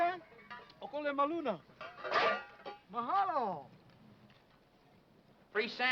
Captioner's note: speaking foreign language